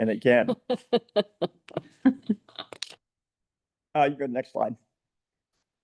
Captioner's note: people laughing